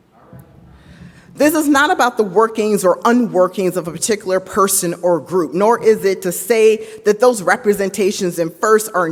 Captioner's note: none